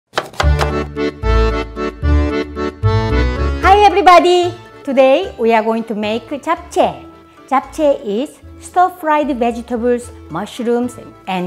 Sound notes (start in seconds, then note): 0.1 chopping; 0.2 polka accordion music